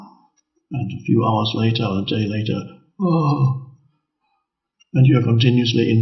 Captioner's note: groans